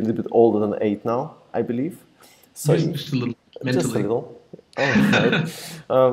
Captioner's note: laughs